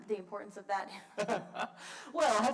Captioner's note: laughs